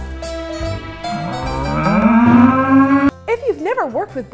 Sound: bulls mooing

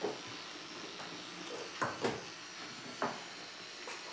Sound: electric toothbrush continues

